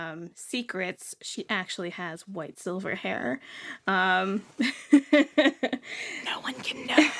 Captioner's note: laughs